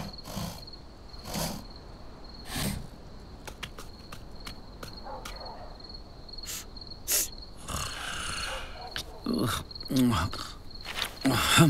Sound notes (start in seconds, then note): 3.4 footsteps tapping; 7.6 man snoring; 7.7 crocodile sniffing